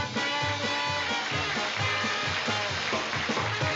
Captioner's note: audience clapping